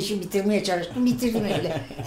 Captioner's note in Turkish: Gülüşme sesleri